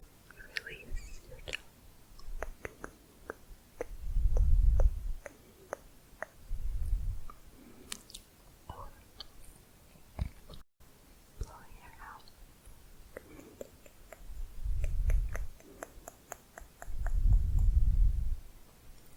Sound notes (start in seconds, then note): 2.3 slower clicking; 12.8 tongue clicking